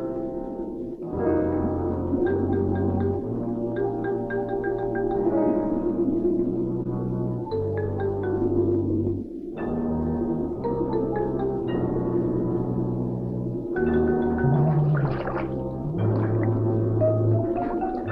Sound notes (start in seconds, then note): 0.1 suspenseful music playing; 14.4 water swishing